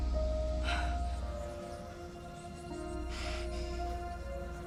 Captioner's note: voices whispering